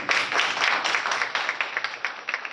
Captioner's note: applause